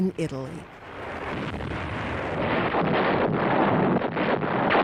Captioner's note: artillery firing